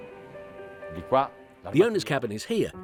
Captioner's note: speaking in foreign language